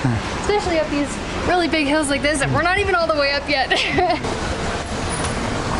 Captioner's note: laughter